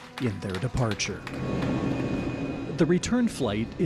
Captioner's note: quick nats plane taking off?